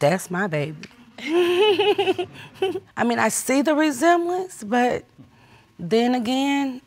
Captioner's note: laughs